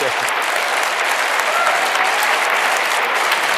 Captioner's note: applause